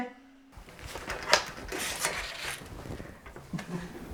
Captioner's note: paper rustling